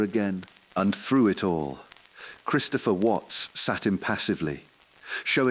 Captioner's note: exhale